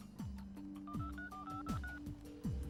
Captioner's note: dials telephone number